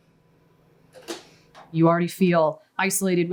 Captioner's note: smacking